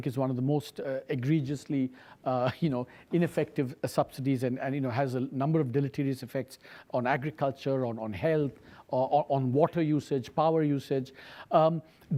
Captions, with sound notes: is one of the most egregiously, (chuckles) you know, ineffective subsidies and has a number of deleterious effects on agriculture, on health, on water usage, power usage.